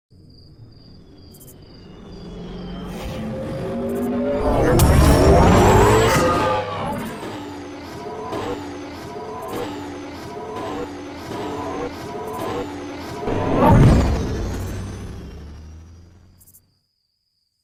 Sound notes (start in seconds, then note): 0.1 crickets chirping; 1.9 electronic whirring